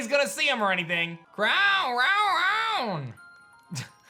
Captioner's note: Calyrex speaking